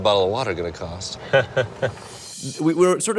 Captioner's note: laughs